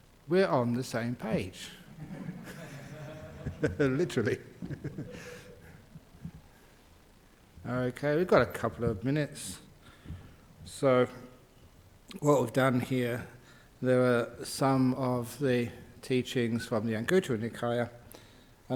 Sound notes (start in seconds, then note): 6.2 laughs